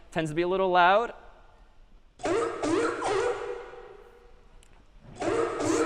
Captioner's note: sea lion barking